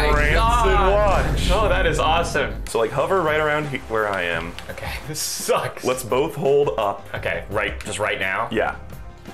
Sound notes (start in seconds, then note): 0.0 boom